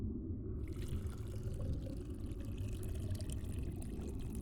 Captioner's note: liquid pouring